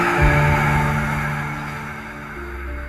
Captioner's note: screaming; dramatic music